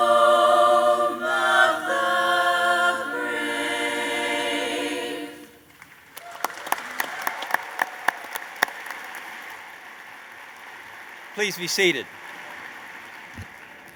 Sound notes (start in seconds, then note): 5.5 applause